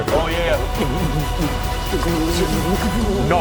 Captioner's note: body horror noises